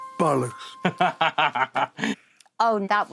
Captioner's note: Jack laughs